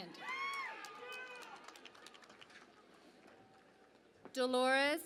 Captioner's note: cheering and Applause